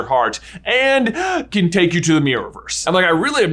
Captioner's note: gasps